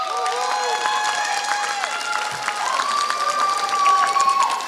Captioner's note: applause